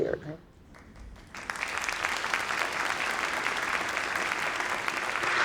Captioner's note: audience clapping